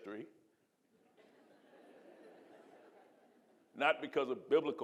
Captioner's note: audience laughing